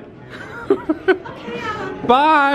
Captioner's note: laughing